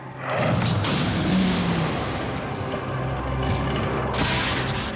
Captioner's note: thunder cracks and rumbles